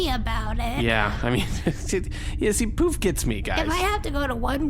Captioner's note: Pleck chuckles